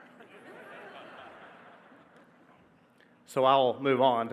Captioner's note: audience laughing